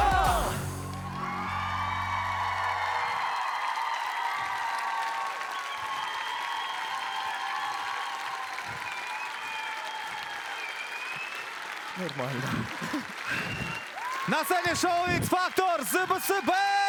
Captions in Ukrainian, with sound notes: [оплески] Нормально на сцені шоу -Фактор ЗБC